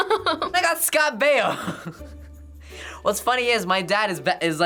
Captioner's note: chuckles; laughs